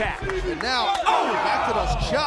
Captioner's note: hands thudding